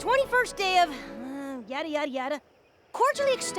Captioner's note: groans